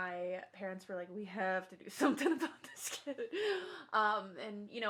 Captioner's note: laughs